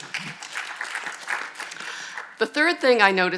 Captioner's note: audience applauding